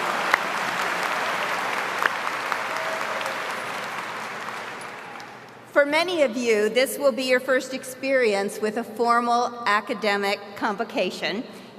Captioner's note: applause